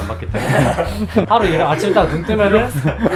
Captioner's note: laughing